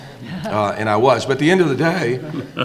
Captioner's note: audience laughing